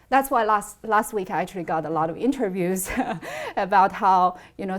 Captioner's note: laughs